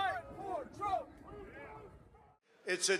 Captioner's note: crowd chanting